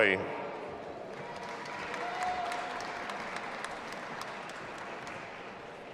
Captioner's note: audience applauding and cheering